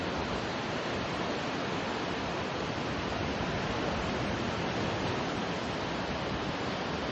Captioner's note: wave sounds intensify slightly